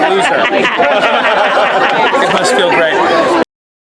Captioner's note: group laughing